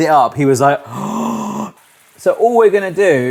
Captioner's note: gasping